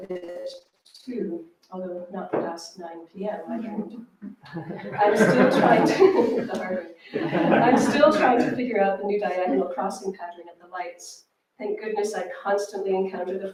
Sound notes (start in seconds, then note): 4.2 laughter